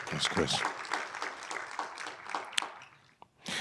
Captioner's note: audience applauding